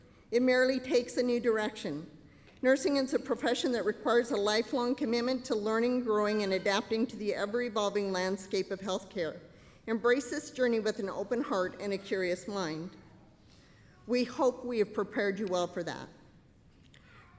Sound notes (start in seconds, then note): none